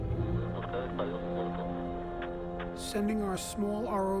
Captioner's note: man speaking in foreign language